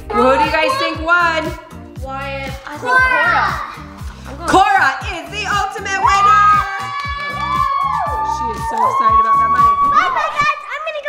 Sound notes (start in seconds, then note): 6.2 screaming